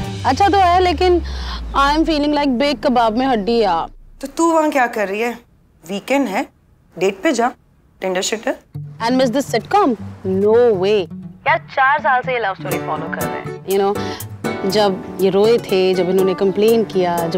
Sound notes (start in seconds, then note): none